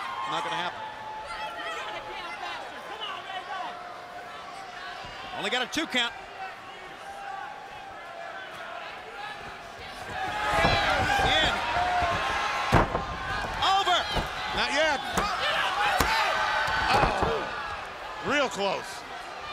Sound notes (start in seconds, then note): 15.2 crowd chatter